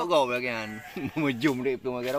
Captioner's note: laugh